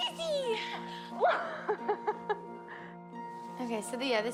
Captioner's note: laughing